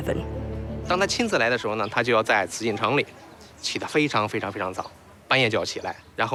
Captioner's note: hablan un idioma extranjero